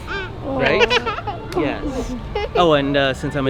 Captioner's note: child laughing